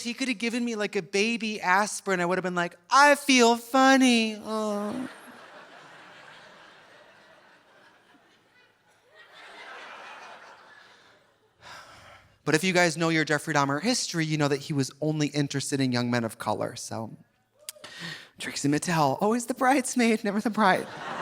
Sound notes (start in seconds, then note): 4.7 audience laughing softly; 4.8 moans; 9.6 audience laughing softly; 11.6 sighs; 20.8 audience laughing